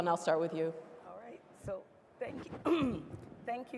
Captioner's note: clearing throat